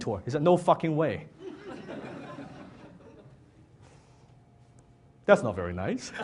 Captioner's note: audience laughs